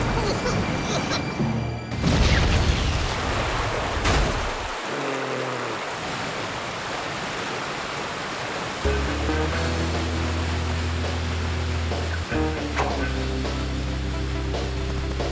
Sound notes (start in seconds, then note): 4.9 groans; 8.8 jazzy theme